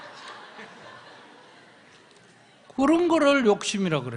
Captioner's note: audience Laughter